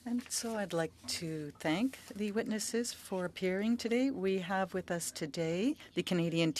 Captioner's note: speaking French